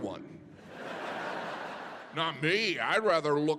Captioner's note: audience laughing